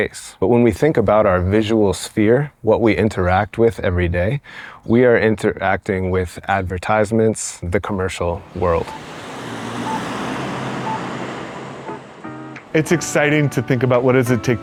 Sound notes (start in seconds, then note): 8.3 traffic noise